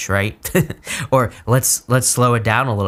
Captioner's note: chuckles